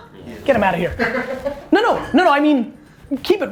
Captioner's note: laughs